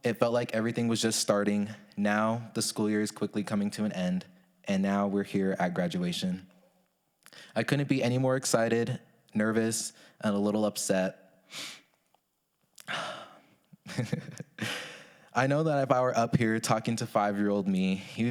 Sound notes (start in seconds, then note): 11.5 sniffles; 13.8 chuckles